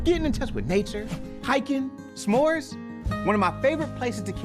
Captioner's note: wind whipping